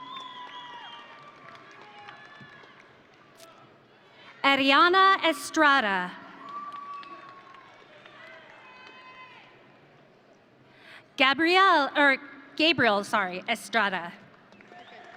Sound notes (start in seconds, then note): 0.0 audience cheering; 6.4 audience cheering